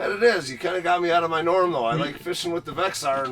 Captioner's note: voiceover